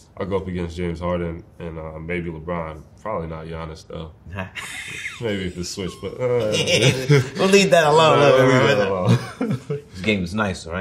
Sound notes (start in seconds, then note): 4.4 laughs; 4.4 Spike laughs; 9.4 laughs